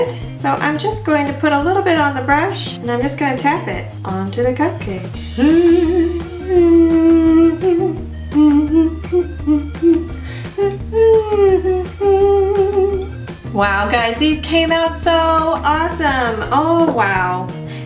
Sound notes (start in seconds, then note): 5.1 humming